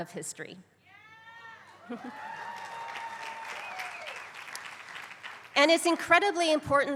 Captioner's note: applause